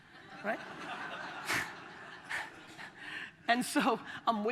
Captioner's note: audience laughter